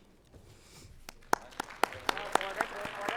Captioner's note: group clapping